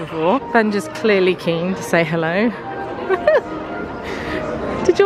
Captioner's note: giggling